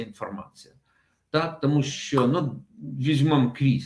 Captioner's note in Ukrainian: none